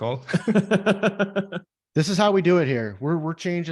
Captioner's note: laughing